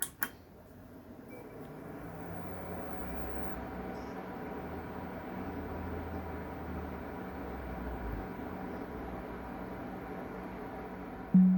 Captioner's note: pc fans spinning; windows 11 startup sound